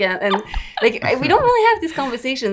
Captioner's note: laughs